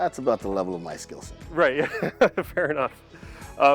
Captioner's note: laughs